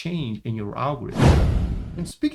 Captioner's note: transition whooshes